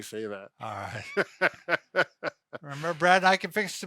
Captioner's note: laughing